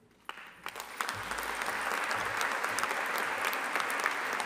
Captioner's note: audience applauding